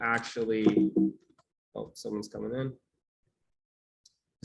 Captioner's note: computer beeps